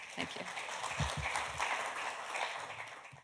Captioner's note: applause